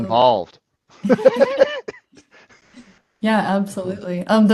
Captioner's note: panel laughs